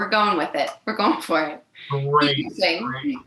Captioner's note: laughing